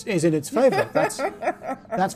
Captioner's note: laughing